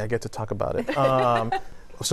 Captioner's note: laughter